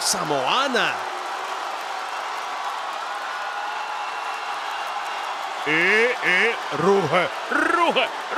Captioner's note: applause